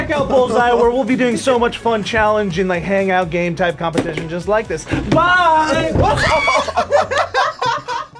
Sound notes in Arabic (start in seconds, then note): 6.0 تصرخ وتضحك